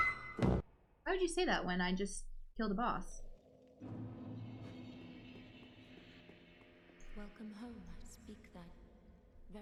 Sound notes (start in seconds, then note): 0.0 scream